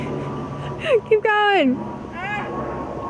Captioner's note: laughing